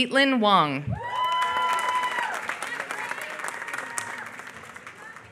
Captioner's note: applause